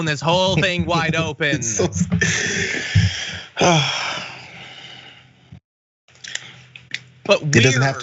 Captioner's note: laugh